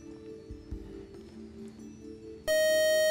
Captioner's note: time-out buzzer